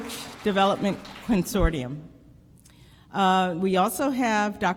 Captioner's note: applause